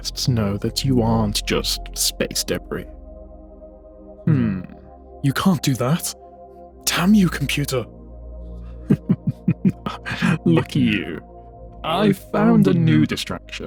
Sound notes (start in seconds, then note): 8.8 laughter